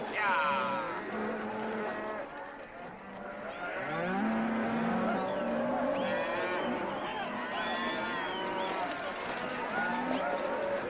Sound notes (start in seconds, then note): 2.8 cattle bellowing